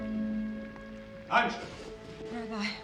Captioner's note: shouts